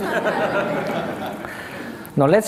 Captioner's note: laughter